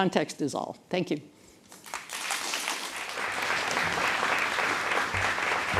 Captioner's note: applause